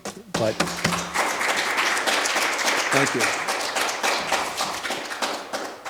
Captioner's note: audience applauding